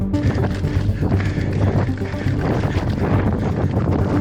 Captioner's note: air whooshing